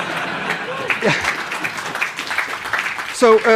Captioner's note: laughter; applause